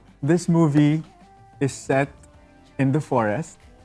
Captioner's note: none